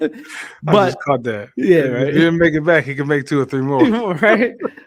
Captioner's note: laughing